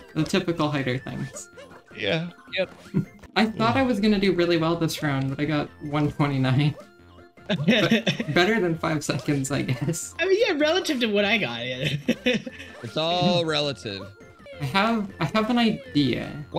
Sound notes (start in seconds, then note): 2.6 snicker; 7.4 laughing; 11.7 laughing